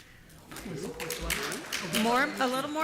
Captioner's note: applause